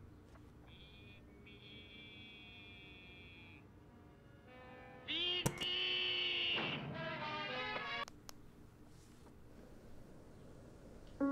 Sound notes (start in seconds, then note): 6.8 TV sounds; 8.0 TV clicks off